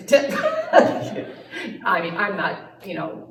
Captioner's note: laughter